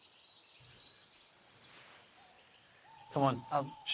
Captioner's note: birds chirping